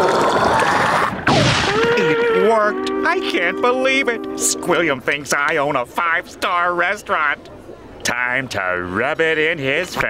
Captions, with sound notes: Fine dining and breathing are all I know how to do. [inhaling] It worked. I can't believe it! Squilliam thinks I own a five-star restaurant.